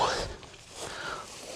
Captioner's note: grunting